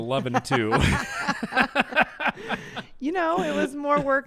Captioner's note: both laugh